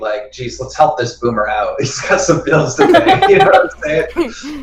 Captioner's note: laughs